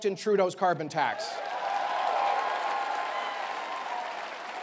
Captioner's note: applause and cheering